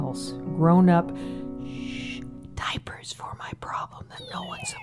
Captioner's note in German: shhh!